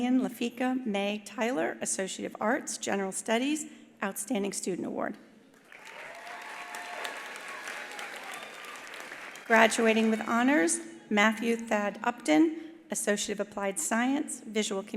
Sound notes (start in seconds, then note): 5.6 attendees applauding; 5.6 attendees cheering